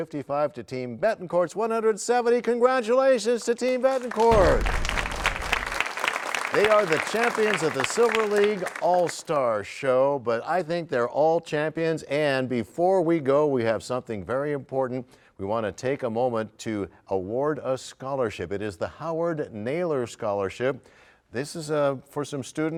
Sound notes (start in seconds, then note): 6.0 applause